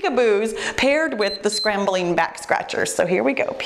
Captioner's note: timer beeps